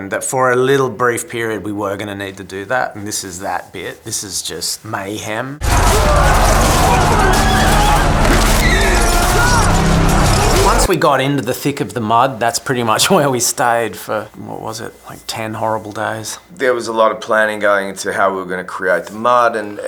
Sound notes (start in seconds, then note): 5.6 yelling; 5.7 rattling